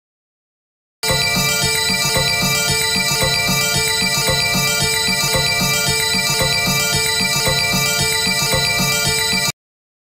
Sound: sound of bells

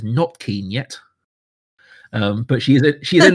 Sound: laughs

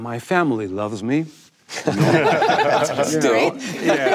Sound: panel laughing

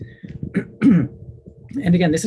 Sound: clears throat

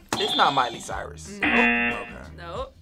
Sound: buzzer sounds

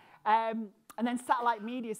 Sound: none

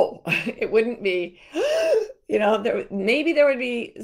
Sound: gasps

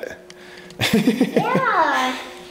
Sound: father laughs

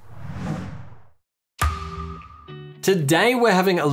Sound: swoosh

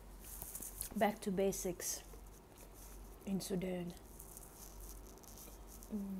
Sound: humming random tune

